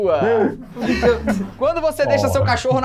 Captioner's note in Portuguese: risadas